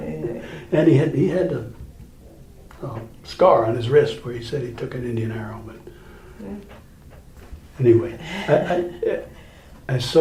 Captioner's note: chuckles; both laugh